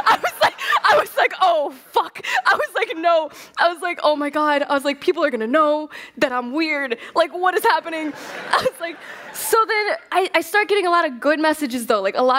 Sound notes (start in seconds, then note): 0.0 laughs; 7.8 laughter